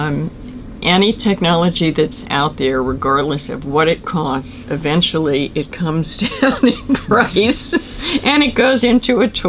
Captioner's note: laughs